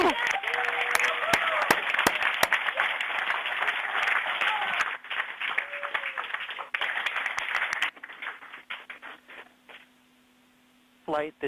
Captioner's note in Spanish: Aplausos